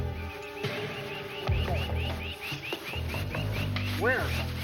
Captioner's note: birds chirping